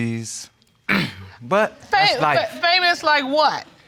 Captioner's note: clears throat